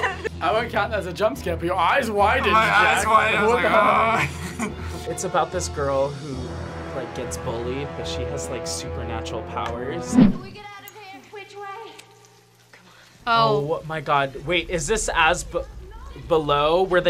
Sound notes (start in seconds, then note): 2.3 laughs